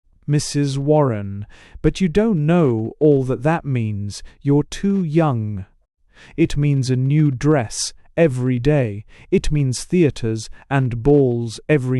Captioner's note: soothingly